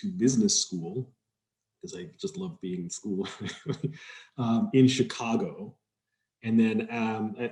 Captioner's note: laughs